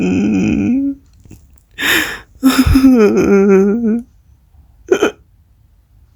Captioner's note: Alex begins to cry again; trying to hold back his tears